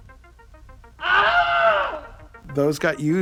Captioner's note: another scream